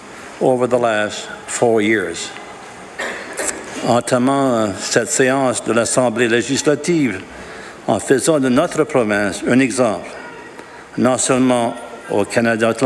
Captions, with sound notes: INVESTMENTS OVER THE LAST FOUR YEARS. . [ Speaking French ]